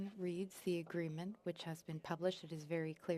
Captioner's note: speaking French